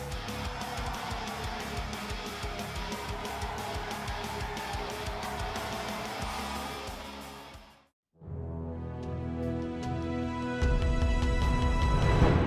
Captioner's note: crowd cheering